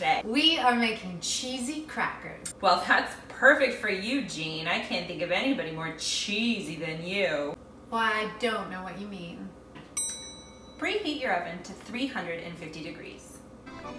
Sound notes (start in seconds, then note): 10.0 bell dings; 13.6 upbeat accordion music